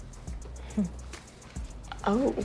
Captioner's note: chuckles